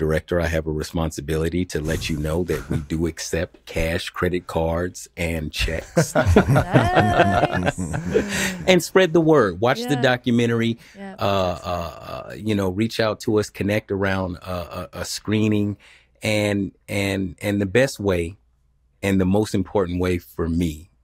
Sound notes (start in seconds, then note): 5.9 panelists laughing